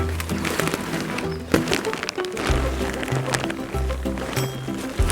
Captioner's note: ゴミ処理の音